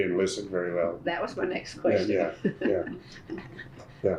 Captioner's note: laughs